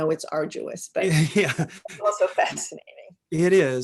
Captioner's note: laughing